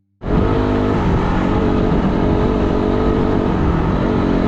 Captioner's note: motorbike revving